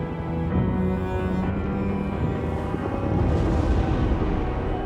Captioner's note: explosions pounding